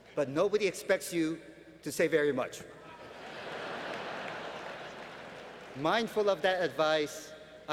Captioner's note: laughter